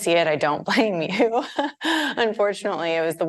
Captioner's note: chuckling